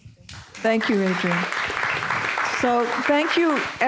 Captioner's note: audience applauding